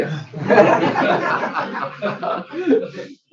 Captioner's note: laughter